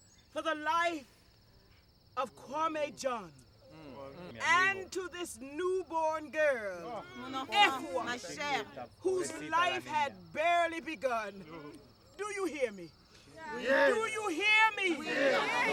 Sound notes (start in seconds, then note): 13.3 group responds